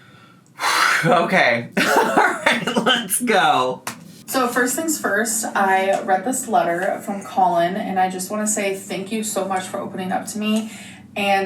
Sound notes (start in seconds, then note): 0.5 sighs; 1.7 laughs